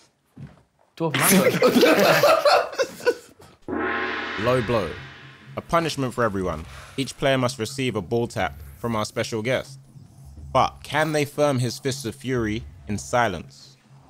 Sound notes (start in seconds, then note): 1.0 group snort-laughing